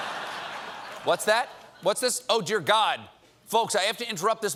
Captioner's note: laughter